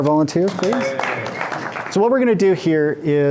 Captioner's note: group applauds